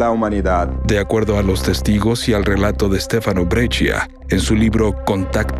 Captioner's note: speaking in foreign language